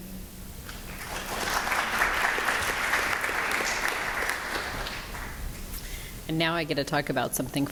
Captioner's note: applause